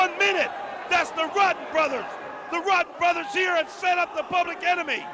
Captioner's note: crowd chatter